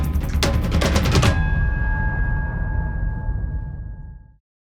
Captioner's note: drumming; bell rings